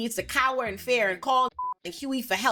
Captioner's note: beep